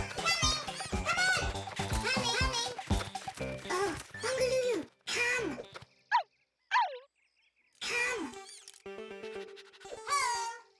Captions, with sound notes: Coming! Come on! -Coming! -Coming! Oh! Bongolulu come! [barking softly] Come! [Lulu panting] Home!